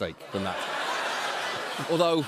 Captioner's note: laughter